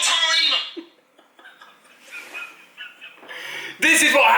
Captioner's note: laughing